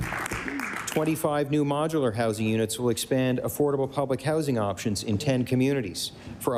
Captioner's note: applause